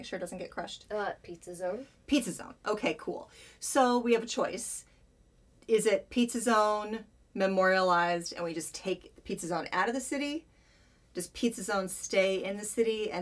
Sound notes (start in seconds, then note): none